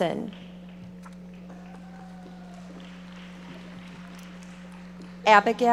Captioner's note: audience applauding